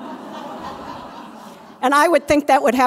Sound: laughter

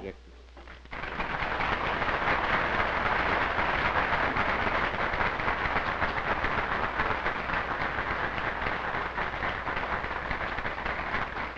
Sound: applause

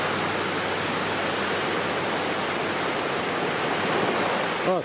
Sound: waves crashing

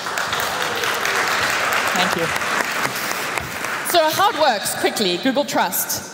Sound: applaus

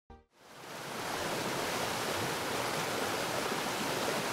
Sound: water falling

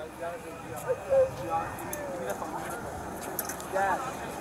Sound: background talking

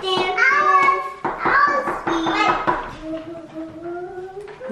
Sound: humming

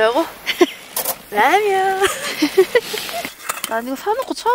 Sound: laughs

